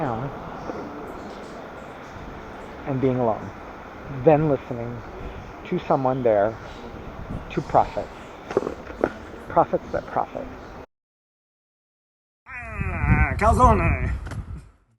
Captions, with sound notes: and being alone then listening to someone there to profit profit but profit (groaning)